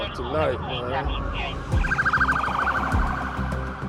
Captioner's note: sirens blaring